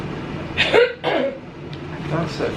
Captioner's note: coughing